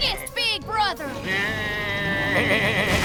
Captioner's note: bleating